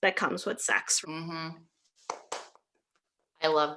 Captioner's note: clapping